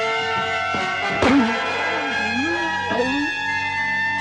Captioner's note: groaning